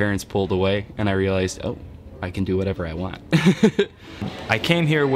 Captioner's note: laughs